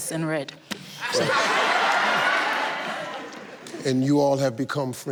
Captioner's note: audience laughs